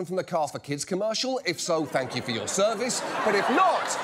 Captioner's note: laughter